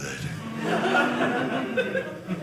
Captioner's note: audience laughing